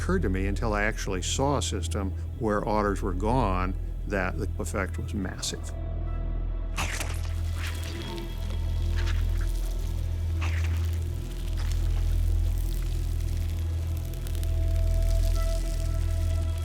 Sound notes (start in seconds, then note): 6.6 squelching; 14.0 crunching